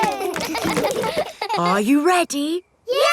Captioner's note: kids laughing